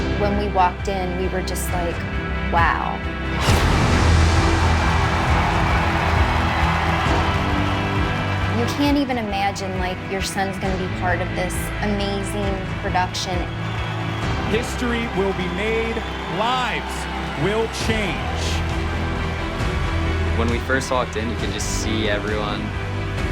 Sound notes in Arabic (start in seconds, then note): 3.4 انفجار مدفع; 6.2 تشجيع الجمهور